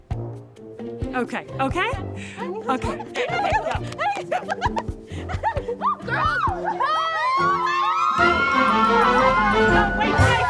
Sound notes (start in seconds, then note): 2.4 girls giggling; 7.7 upbeat music